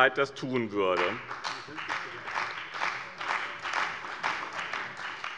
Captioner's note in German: Beifall bei dem BÜNDNIS 90/DIE GRÜNEN und der CDU